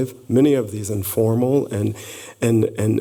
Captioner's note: none